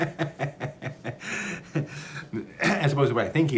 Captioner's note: laughs